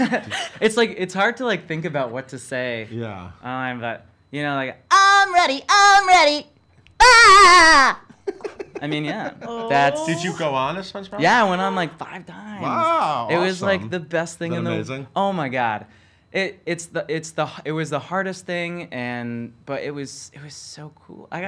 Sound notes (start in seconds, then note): 4.9 Spongebob voice; 7.1 laughs